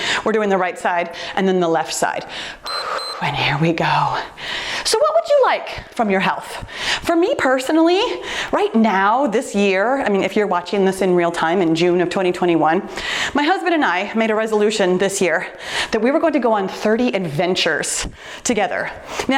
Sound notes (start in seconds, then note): 2.6 timer beeps; 4.2 deep breaths